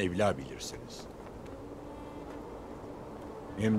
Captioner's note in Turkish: Rüzgâr sesi